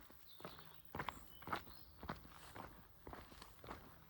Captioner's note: footsteps and bird song